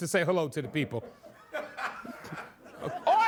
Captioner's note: laughter